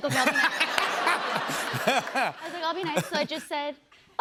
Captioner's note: laughter